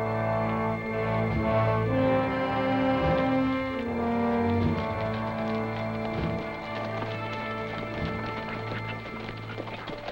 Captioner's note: galloping